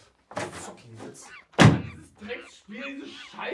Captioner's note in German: Tür wird zugeworfen